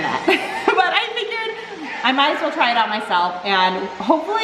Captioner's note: laughs